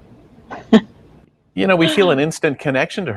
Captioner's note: woman chuckling